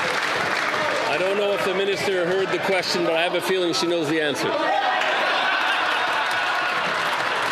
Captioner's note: some Applause